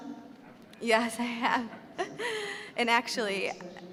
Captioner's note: laughing